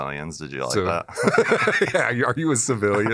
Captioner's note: laughter